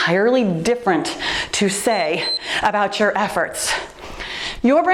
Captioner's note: timer beeps